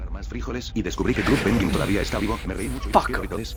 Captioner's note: startled